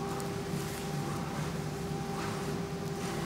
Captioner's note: machine whirring